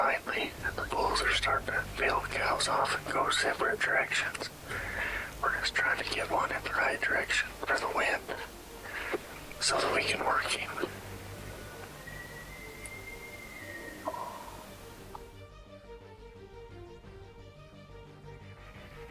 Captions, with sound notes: Finally, the bulls are starting to peel the cows off and go separate directions. We're just trying to get one in the right direction for the wind so that we can work him. (elk calls)